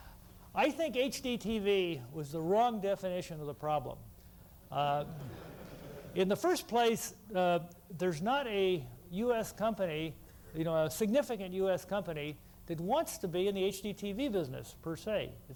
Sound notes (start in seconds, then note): 5.0 laughter